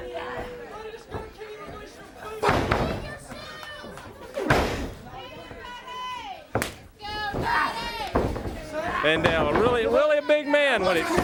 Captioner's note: crowd cheering